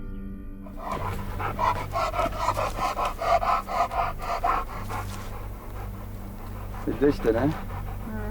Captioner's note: dog panting